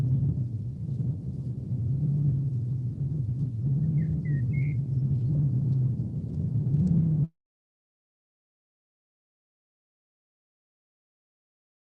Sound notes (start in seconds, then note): 4.0 whistling; 6.6 silence